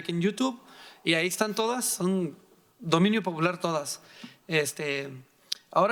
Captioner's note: speaking in foreign language